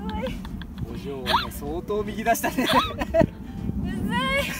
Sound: laugh

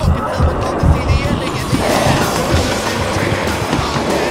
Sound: zombies clamoring

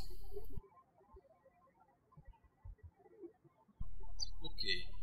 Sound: birds chirping

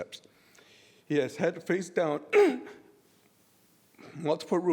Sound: clears throat

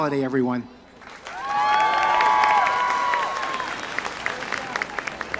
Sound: audience cheers

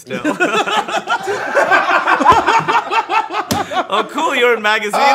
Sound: laughter

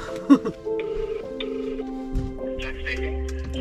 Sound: phone ringing

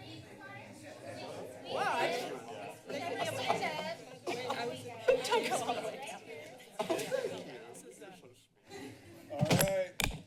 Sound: background conversations

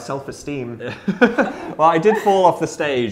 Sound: laughs

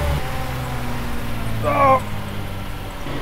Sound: groans

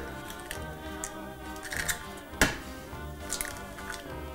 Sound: eggs cracking

